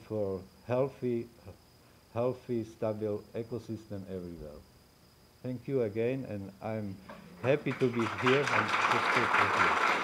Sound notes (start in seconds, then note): 7.3 applause